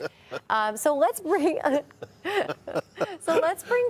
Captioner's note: hosts laughing